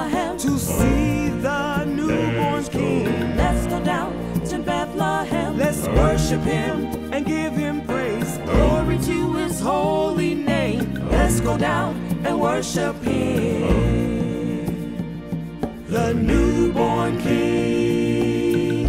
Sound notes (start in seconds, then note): 1.8 humm; 6.4 humm; 10.0 humm; 12.9 humm